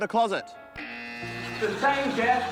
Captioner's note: buzzer